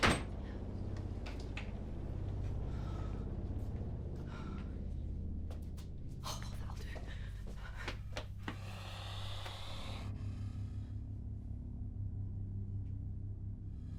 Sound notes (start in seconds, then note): 2.4 Linda panting; 8.7 spider hissing